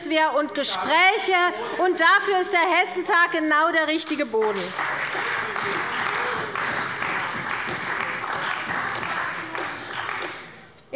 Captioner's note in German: Beifall bei der CDU - Zurufe von der LINKEN